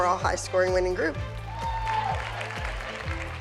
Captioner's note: whooping